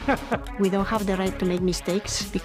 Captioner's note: interviewee laughs